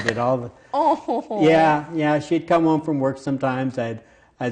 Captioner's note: laughs